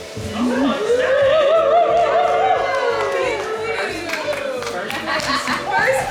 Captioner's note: friends cheering; friend laughs; friends clapping